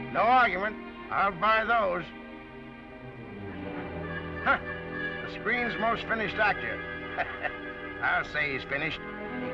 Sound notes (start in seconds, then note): 4.2 laughs; 6.8 laughs